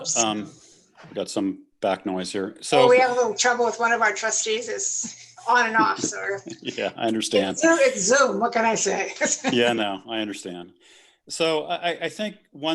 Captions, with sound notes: We've got some back noise here. We have a little trouble with one of our trustees, he's on and off, sir I understand. It's Zoom what can I say? [LAUGHTER]. Yes,I know. I understand. I think